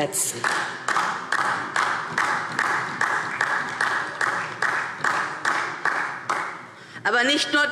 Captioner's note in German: Beifall DIE LINKE und vereinzelt SPD